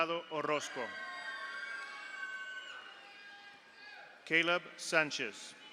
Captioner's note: audience cheers; audience applauds